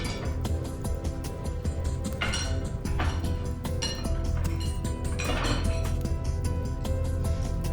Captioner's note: tense music; objects thudding